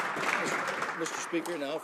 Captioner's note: some Applause